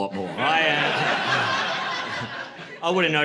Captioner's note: laughter